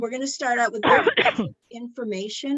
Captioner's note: participant coughs